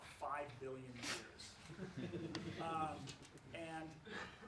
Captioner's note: laughs